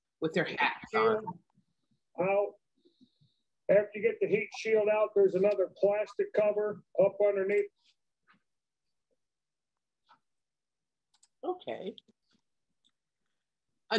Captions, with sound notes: with their hats on. - [Recorded Voice] After you get the heat shield out there's another plastic cover up underneath. - Okay.